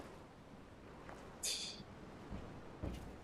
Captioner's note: laughs softly